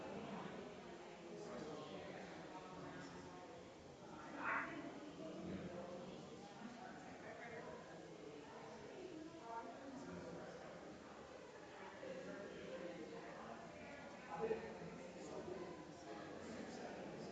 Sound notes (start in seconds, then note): 5.6 people chattering distantly continues